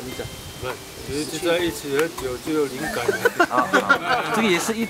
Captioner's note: laughing